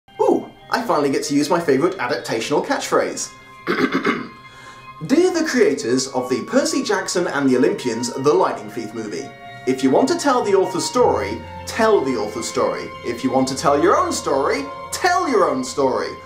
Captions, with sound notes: Ooh, I finally get to use my favorite adaptational catchphrase! *clears throat* Dear the creators of the Percy Jackson and the Olympians: The Lightning Thief movie, if you want to tell the author's story, TELL the author's story. If you want to tell your own story, TELL your own story.